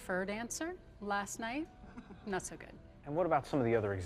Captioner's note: people laugh